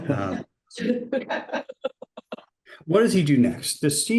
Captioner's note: and class laugh